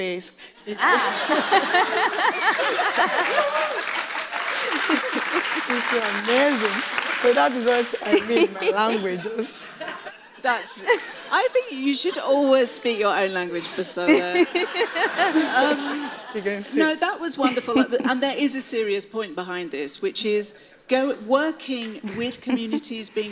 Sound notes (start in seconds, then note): 1.7 laughs; 3.3 audience applauds; 10.2 laughs; 13.4 audience laughs